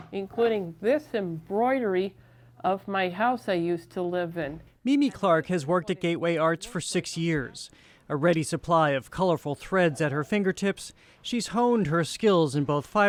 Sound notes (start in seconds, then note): 5.2 voice-over